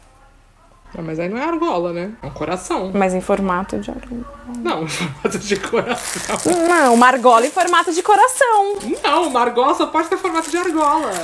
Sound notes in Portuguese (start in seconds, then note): 2.9 sussurrando; 4.9 risos